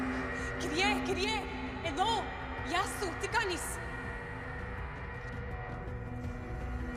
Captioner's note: Tara speaking in foreign languages; tense music